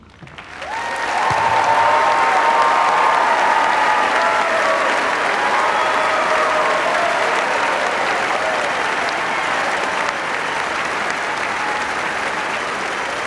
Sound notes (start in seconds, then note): 0.0 applause